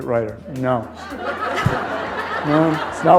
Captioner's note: laughter